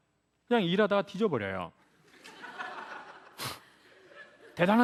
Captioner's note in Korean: 관객 웃음